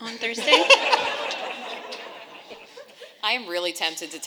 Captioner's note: audience and panelists laughing